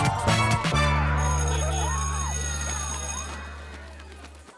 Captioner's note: bell ringing